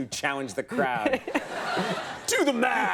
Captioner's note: Michael and audience laugh